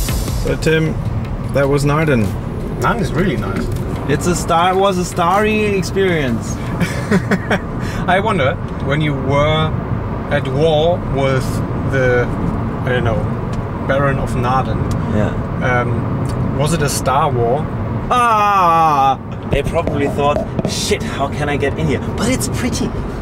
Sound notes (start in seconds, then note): 6.6 laughs; 18.1 laughs